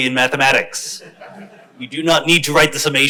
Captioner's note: crowd laughs